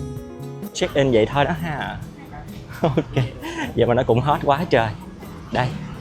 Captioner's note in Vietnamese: tiếng cười